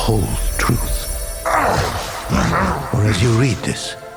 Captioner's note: demonic snarling